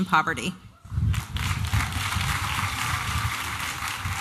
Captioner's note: applause and cheering